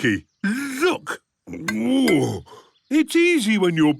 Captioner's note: grunts